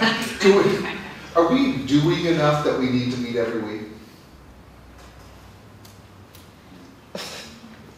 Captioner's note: laughing